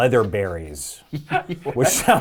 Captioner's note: laughing